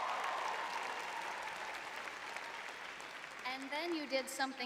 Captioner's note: cheers; applause